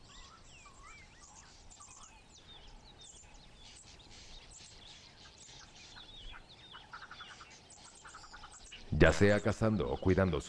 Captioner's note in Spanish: sonidos selváticos